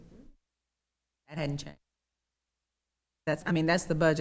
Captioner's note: audio cuts out; audio cuts out